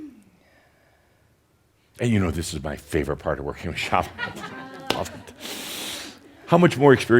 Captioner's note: chuckles